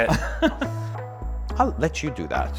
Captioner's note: laughs